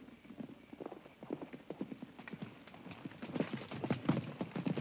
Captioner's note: hooves clomp